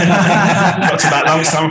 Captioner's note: group laughing